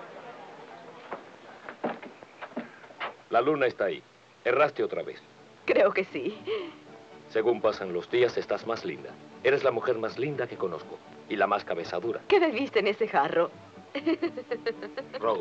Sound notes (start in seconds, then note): 6.6 laughs